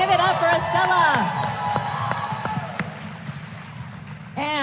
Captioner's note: applause